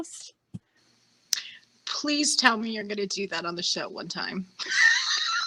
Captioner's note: laughing